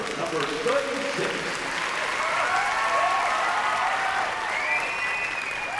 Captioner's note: cheering and applause